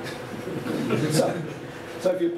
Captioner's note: laughter